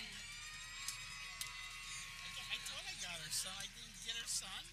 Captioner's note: people cheering